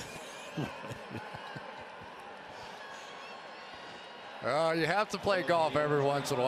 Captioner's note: laughs